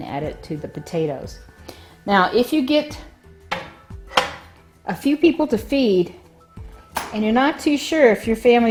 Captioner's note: lid shifting